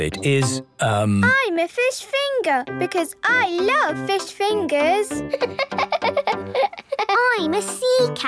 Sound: laughing

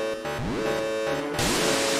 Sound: alarm

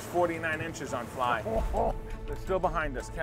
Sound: laughs

